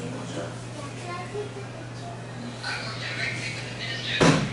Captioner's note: background chatter